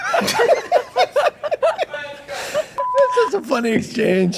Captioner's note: group laughing